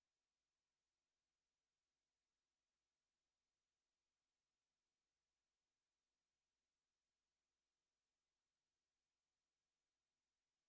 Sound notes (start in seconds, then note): none